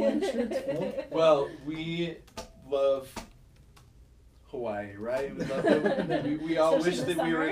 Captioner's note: all laughing